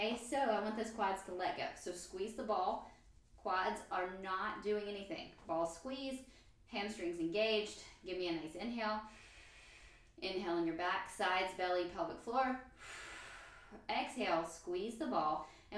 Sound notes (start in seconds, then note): 9.7 inhale; 12.7 exhale